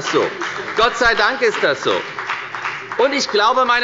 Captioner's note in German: Beifall bei der FDP